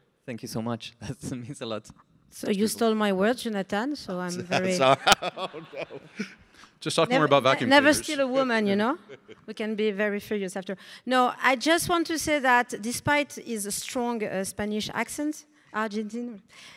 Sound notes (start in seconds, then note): 4.4 laughing; 6.0 audience laughs